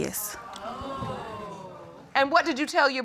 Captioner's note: audience exclaiming